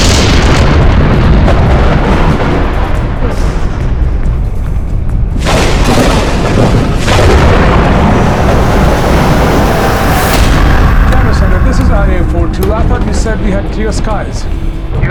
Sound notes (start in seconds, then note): 5.5 thunder